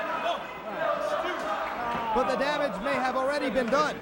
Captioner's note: crowd chatter